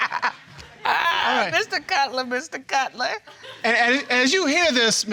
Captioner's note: all laughing; laughing